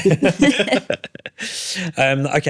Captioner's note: laughter